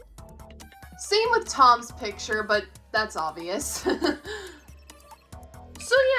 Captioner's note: laughs